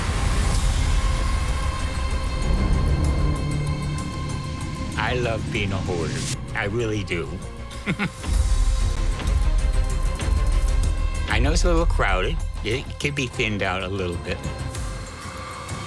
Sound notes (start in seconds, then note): 7.7 chuckles